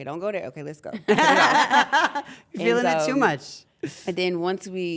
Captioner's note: laugh